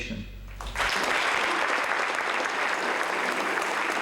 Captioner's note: audience applauds